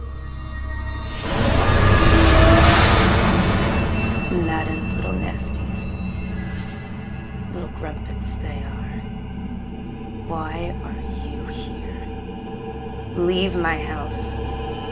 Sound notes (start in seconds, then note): 0.3 dramatic music; 4.2 speaking in foreign language